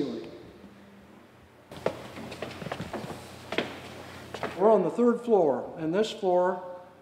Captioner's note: footsteps